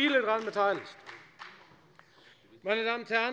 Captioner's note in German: Beifall bei der FDP